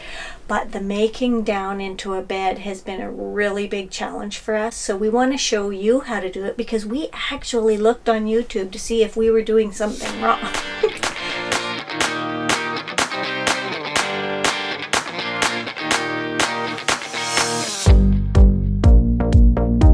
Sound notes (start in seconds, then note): 9.9 laughs; 10.0 energetic music